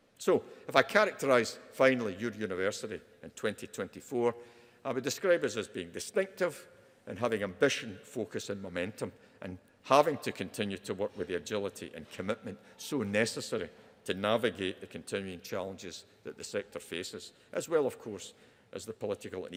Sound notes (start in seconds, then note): none